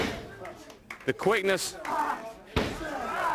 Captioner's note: crowd chatter